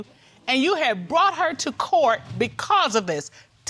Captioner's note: none